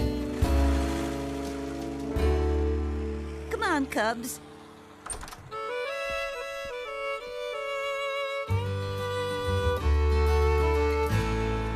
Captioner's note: car Departing